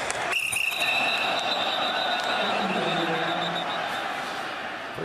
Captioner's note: whistle blowing